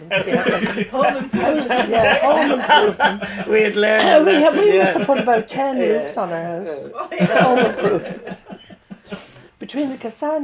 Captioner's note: laughter